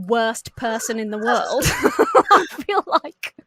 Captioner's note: laugh